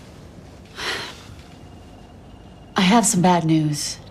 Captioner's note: sighs